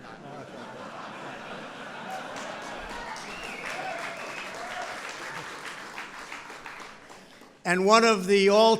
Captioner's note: laughter and applause